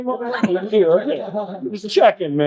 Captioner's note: laughing